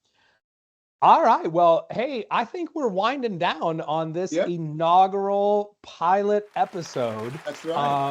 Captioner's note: clapping cheering